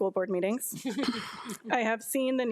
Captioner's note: board of trustees chuckle